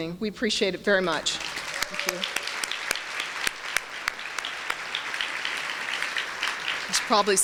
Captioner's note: applause